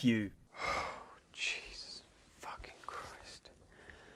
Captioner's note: sighs